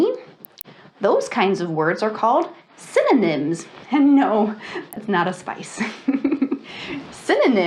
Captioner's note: laughs